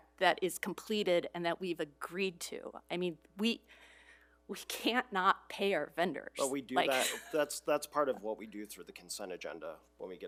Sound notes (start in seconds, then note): 6.9 laughs